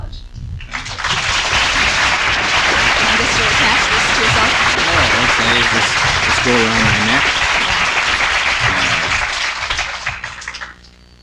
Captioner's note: audience clapping